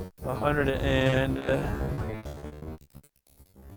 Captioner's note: crackles